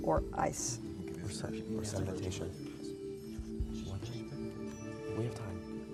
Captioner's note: whispering